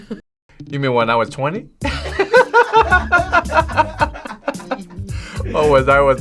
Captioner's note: laughs; laughs